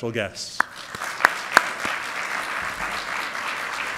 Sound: applause

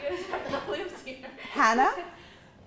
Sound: chuckles

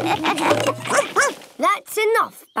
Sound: all laugh; barks

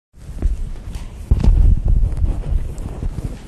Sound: microphone rustling

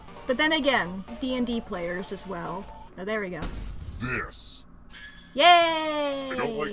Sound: none

